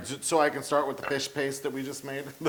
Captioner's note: laugh